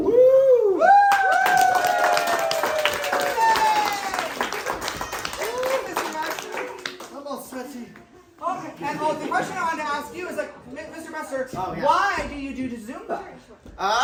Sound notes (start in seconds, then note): 1.0 applause